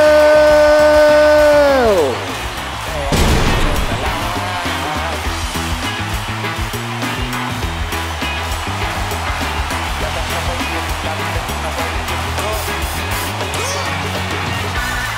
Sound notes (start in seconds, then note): 3.1 firework; 4.3 upbeat music